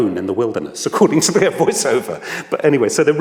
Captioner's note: laughs